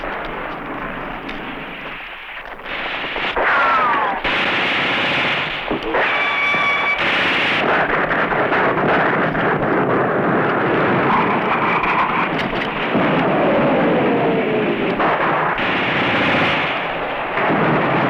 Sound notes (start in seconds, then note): 3.6 gunfire